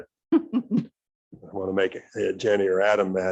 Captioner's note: chuckles